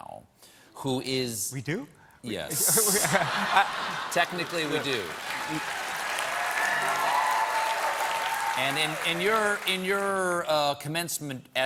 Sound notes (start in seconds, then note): 2.5 laughter; 3.1 cheers and applause